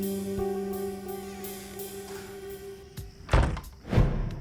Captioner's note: door squeaks